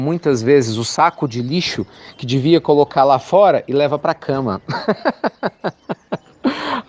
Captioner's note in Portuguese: Risos